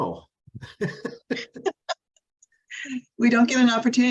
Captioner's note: chuckling